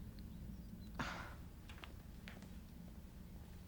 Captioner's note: scoffs